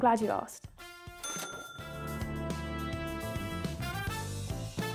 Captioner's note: bell rings